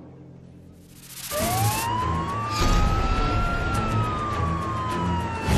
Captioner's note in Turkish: Siren sesleri